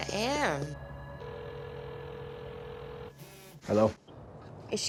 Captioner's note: phone ringing